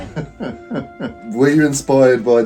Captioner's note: chuckling